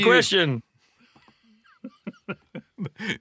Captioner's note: laughter